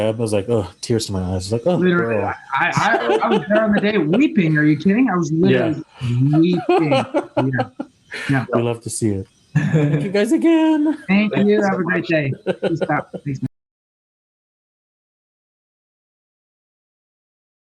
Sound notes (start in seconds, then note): 7.7 laughs; 14.0 laughing